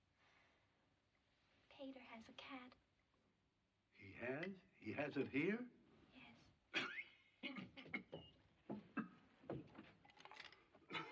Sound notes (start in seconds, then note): 6.7 coughing